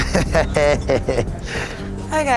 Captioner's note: laughs